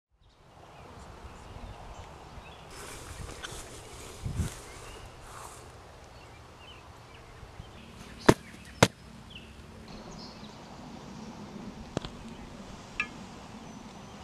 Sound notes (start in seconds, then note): 0.5 birds chirping; 8.2 foot stomps